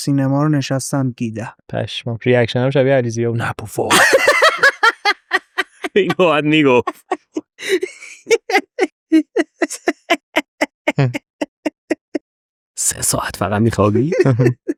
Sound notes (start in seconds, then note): 5.5 laughs